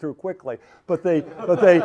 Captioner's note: laughter